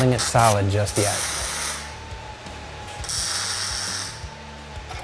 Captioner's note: tools whirring